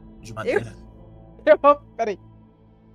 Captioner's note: laughter